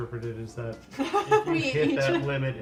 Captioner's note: laughter